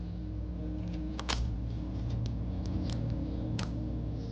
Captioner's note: wind howling